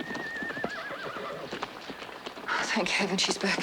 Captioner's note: horse whinnies